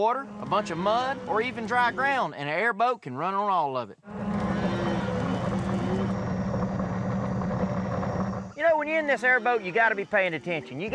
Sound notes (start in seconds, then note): 4.0 mooing